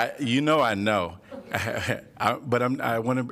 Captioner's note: laughter